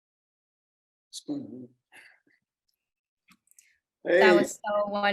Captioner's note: chuckles